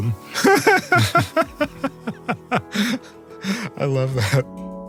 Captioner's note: laugh